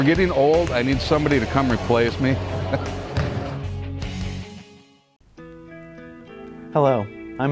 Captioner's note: laughs